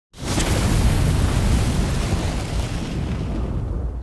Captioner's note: flames roaring